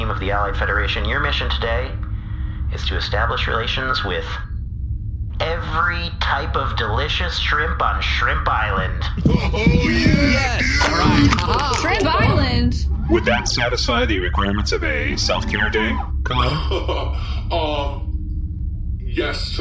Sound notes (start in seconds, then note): 10.3 shouting; 11.9 crushes can